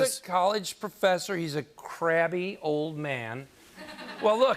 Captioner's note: laughter